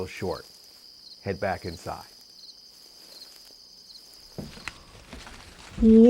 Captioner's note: footsteps